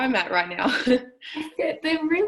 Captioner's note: laughs